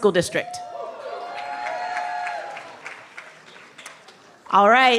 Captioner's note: cheering